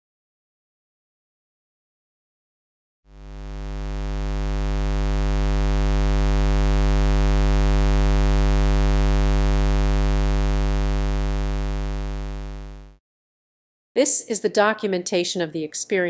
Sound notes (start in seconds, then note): 3.1 square wave sound